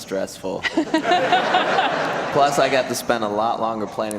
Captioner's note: audience laughter